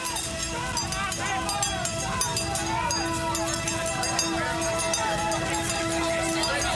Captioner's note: men yelling; suspenseful music